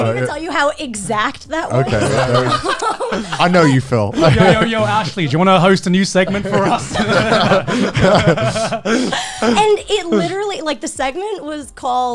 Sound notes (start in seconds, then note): 7.1 all laughing